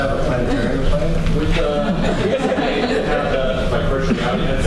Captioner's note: laughter